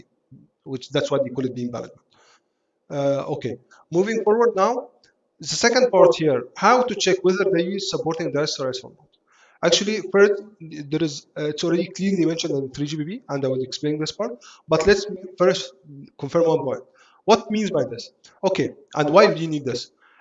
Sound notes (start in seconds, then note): 17.5 antenna switching